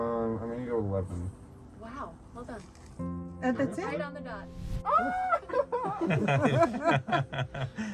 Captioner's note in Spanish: Risas